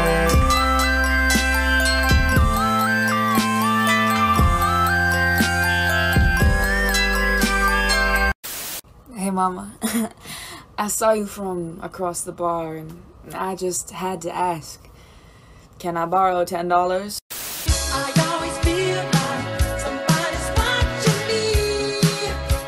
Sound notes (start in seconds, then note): 9.8 f-boy laugh